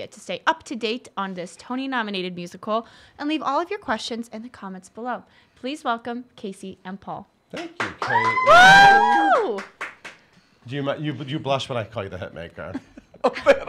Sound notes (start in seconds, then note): 7.9 cheering; 12.5 laughing